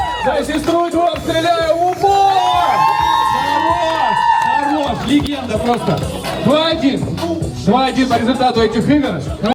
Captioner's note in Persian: صدای تشویق